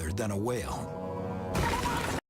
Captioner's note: panicked screaming